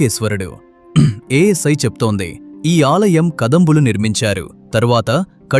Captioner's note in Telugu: గొంతు సవరించుకోవడం